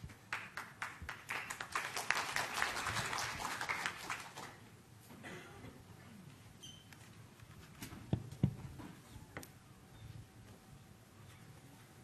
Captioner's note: applause